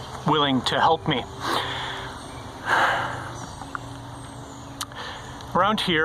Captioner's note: sighs